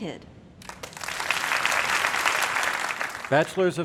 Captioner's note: crowd applauding